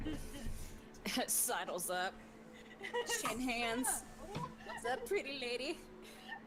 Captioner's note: laughs